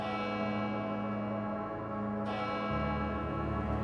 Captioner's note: bell ringing